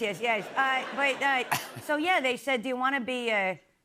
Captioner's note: laughter